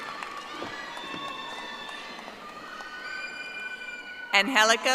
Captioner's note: audience applauding